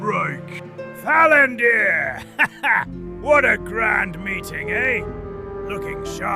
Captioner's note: excited; chuckles